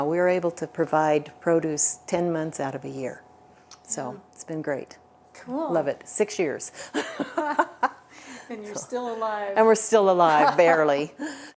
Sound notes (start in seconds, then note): 7.0 laughs